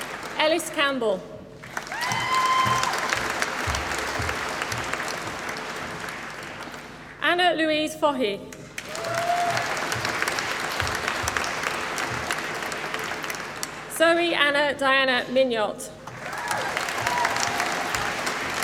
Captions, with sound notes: Ellis Campbell. (APPLAUSE) Anna Louise Faughey. (APPLAUSE) Zoe Anna Diana Mignot. (APPLAUSE)